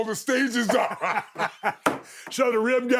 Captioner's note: both laughing